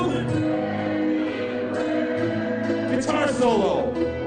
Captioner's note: crowd